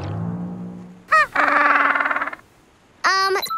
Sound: penguin noises

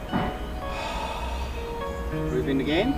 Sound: exhales

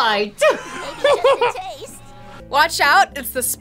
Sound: laughing

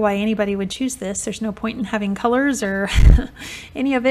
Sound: chuckles

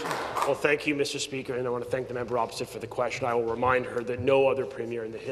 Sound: some Applause

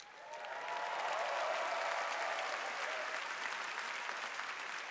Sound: applause

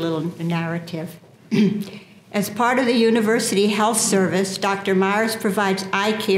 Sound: cough

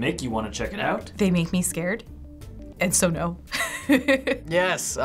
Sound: chuckles

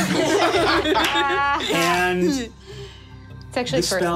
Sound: group laughing

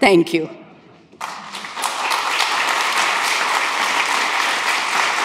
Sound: audience applauds

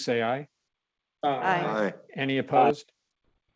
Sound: multiple voices

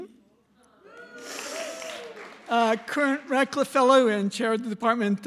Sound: applause

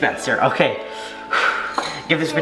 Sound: exhales quickly

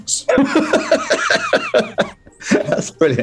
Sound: laughing

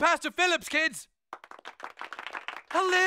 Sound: clapping

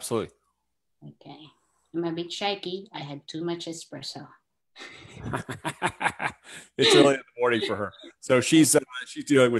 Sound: laughs

